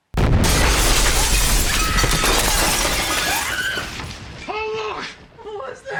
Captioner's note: explosion booms; Mollie screams